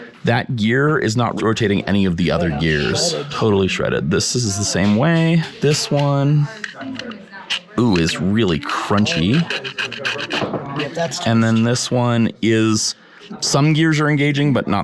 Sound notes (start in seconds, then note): 10.0 wheel crunching